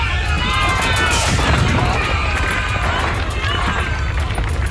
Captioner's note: fire explodes